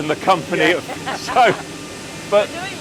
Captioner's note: laughing